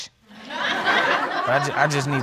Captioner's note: audience laugh